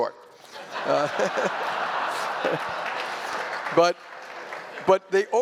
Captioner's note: laughter